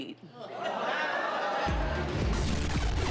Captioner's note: audience Laughing